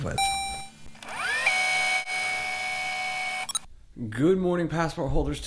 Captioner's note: tape rewinding